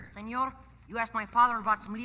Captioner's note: speaking Spanish